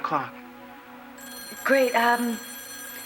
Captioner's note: telephone rings